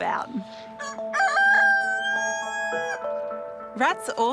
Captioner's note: crows